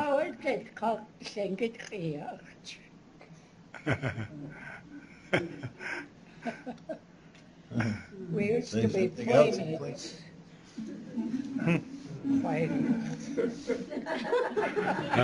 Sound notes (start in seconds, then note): 0.2 non-english speech; 3.7 chuckles; 12.8 laughter